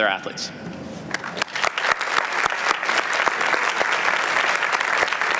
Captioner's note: applause